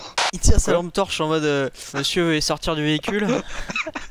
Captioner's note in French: rire